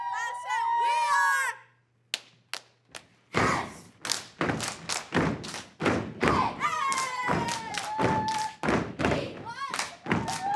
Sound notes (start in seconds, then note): 1.8 hand slaps; 3.4 clapping and stomping